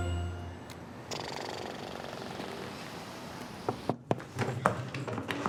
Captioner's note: traffic rumbling; William exhaling; door knocking